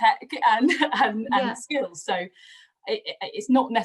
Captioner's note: laughs